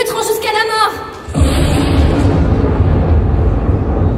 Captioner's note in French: Tonnerre